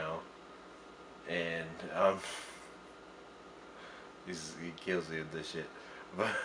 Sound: laughs

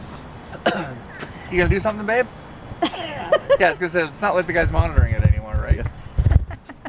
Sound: chuckles

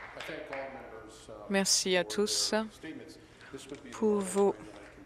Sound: some Applause

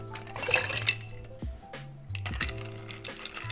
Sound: ice rattling

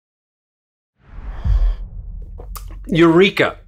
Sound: zooming sound effect

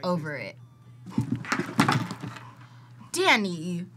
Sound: gasps

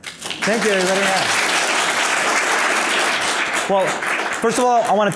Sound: audience applause

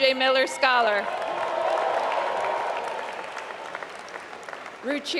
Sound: applause

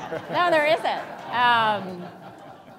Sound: audience laughing

